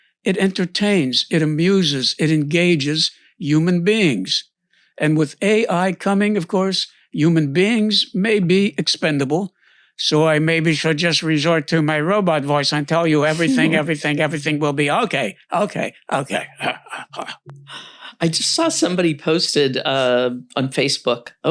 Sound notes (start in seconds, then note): 16.6 burbles